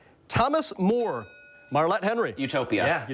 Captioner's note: bell dings